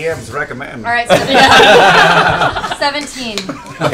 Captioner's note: laughter